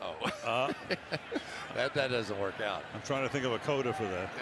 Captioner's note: chuckles